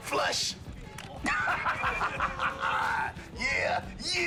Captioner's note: laughs